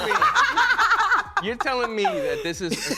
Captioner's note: laughter